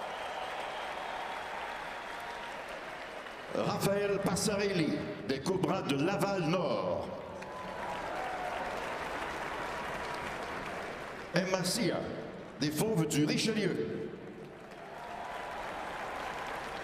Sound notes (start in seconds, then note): 0.0 cheering and applause; 3.2 speaking French; 4.2 cheering and applause